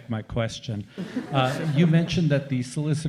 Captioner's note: chuckles